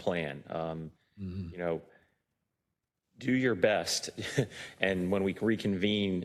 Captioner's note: laugh